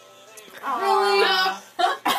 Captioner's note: groans